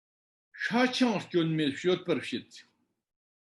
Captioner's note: tibetan